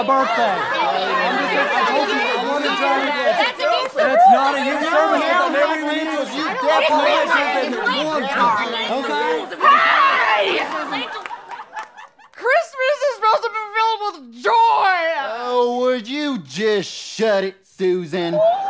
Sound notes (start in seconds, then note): 0.3 angry bickering; 5.3 angry bickering; 9.9 yelling; 12.3 strangled Voice